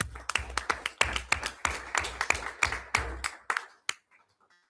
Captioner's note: everyone applauds